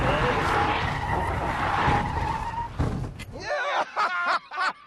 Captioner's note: tyres screeching; laughter